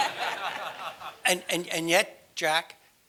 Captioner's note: laugh